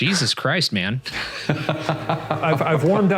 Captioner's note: laughing